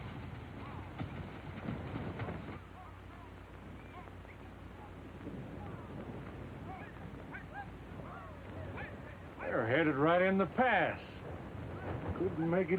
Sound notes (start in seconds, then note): 1.2 men whistling; 1.2 men yelling